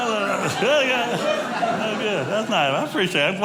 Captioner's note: audience laughing